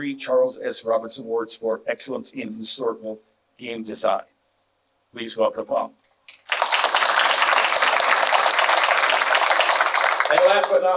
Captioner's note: clapping